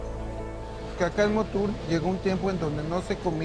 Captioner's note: speaking Spanish